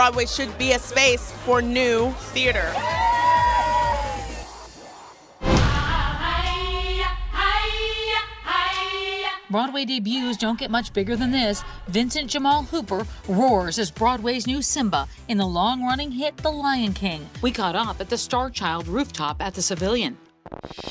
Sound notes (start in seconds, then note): 3.7 all cheering; 6.3 intense music